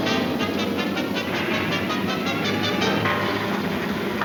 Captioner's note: suspenseful music; metal clanks